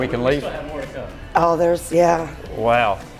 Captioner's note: male Voice